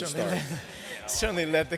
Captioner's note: laughter